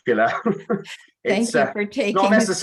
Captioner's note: laughs